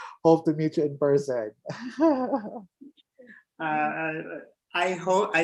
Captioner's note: laughs